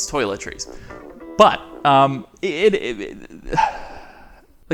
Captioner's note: sighs